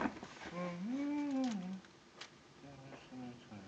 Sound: humming

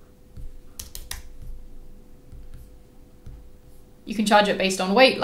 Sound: keys clicking

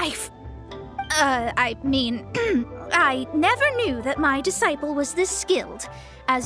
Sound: cough

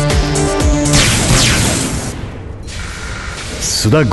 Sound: two blaster shots

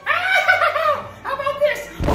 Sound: cackling laughter

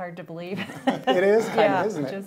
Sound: laughing

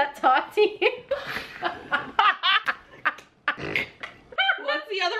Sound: both laughing

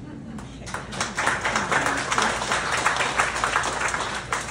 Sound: applause

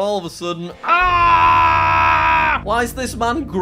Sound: screaming

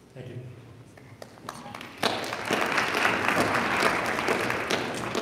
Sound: audience applauding

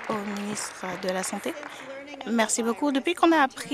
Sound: applause

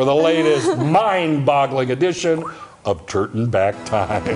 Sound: laughter

